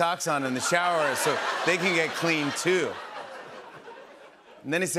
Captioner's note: laughter